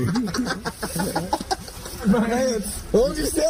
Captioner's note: laugh and is losing it